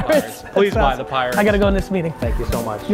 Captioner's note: laughs